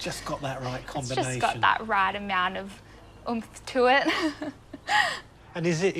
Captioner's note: laughs